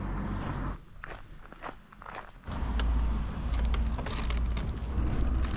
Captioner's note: footsteps crunching